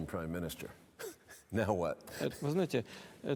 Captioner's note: chuckles